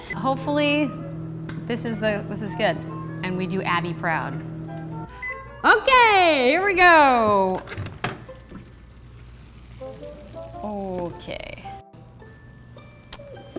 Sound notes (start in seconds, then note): 7.4 door clicking; 8.4 sizzling